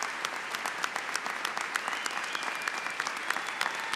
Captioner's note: applause